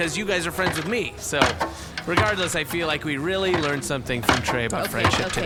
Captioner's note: sound of Dar and Pleck climbing up to escape